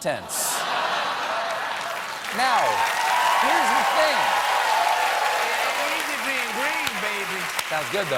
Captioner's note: cheers and applause